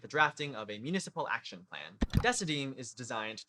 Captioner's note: click